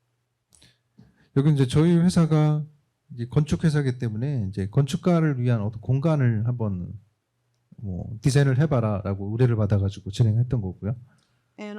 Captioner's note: speaking korean